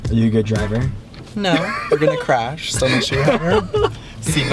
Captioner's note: laughing